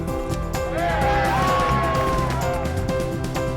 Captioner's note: cheering